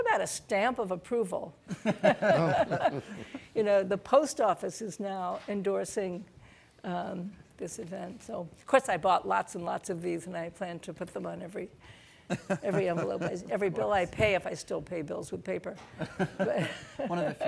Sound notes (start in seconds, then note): 1.8 audience laughing; 1.9 laughs; 15.9 laughs; 16.0 laughing